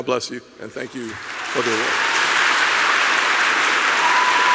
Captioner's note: applause